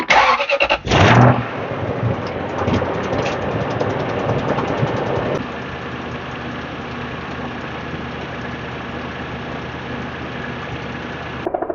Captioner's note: engine starting up